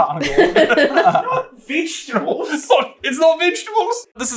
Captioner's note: accented